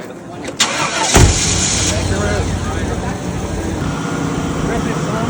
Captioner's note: people chattering; car engine roaring; car door shutting; car engine humming; people chattering